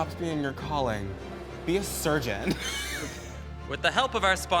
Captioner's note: chuckles